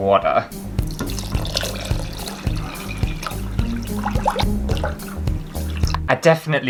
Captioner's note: water Pouring